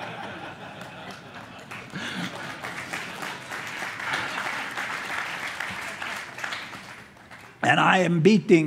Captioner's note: applause